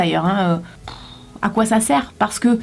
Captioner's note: sigh